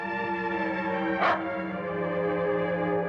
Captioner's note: Tommy barks